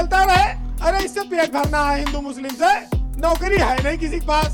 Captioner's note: communal discussion